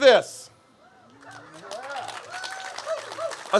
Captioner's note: cheers and applause